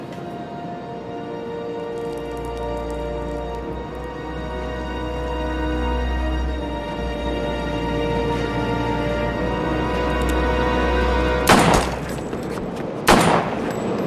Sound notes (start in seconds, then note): 2.4 dramatic music; 2.4 urine dripping; 13.0 gun firing